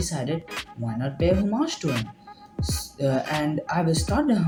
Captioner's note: stuttering